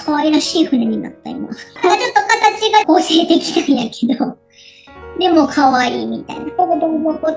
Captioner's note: laughs